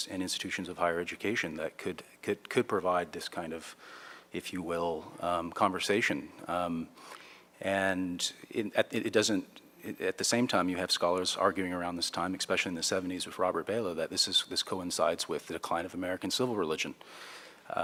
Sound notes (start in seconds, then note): none